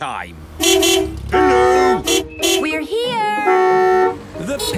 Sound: beeping

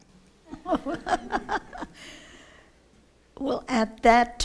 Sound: laughter

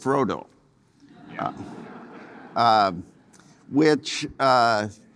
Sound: audience laughing

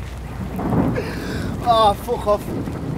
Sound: thunder rumbles

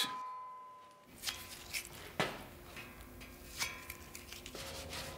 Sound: quiet metallic sound

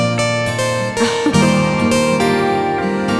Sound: laughs

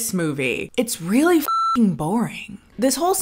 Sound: beep

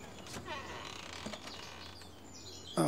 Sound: door creaks

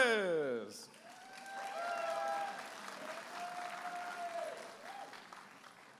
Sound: audience applauding and cheering

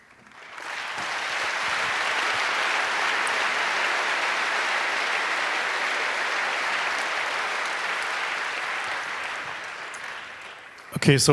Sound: applause

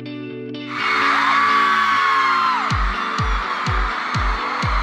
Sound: screams

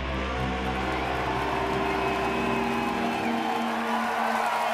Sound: audience applauds

